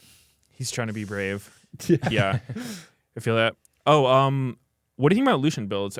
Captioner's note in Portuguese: risos